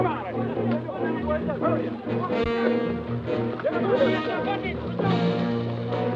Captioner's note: guerrillas talking excitedly